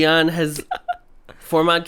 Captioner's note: laughs